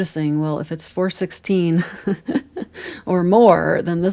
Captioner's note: laughter